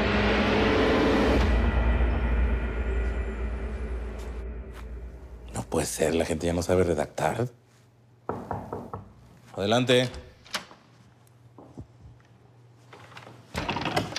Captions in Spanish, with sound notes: - No puede ser. La gente ya no sabe redactar. [Toques en la puerta] Adelante.